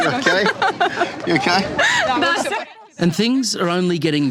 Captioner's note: laughs; women speak ukrainian